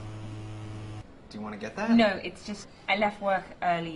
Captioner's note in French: le téléphone vibre